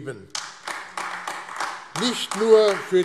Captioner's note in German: Beifall AfD